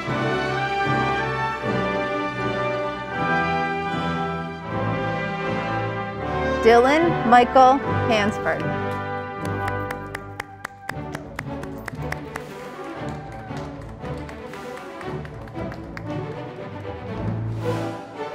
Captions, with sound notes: Dylan Michael Hansford, (audience applauding)